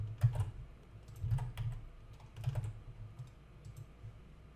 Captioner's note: keyboard clacking